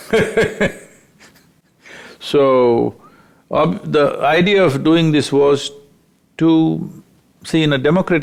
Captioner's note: laughs